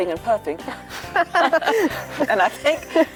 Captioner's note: laughing